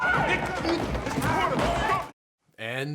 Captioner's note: yelling